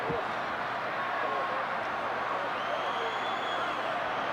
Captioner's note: crowd cheering